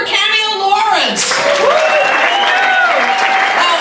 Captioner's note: audience cheers